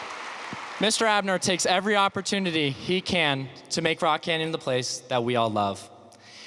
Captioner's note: applause